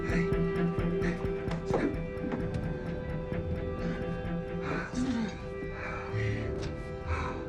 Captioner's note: men panting; dramatic music